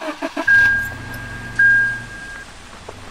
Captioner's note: car dinging